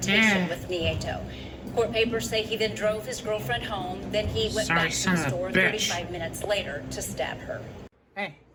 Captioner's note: indistinct chatter on TV, music ends